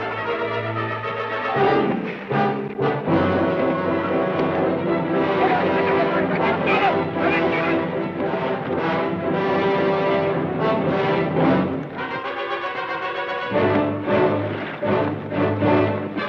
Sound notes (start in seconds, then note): 0.1 dramatic orchestral music; 5.5 distant yelling